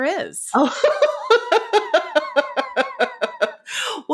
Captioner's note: laughing